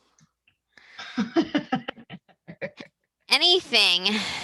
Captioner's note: laughs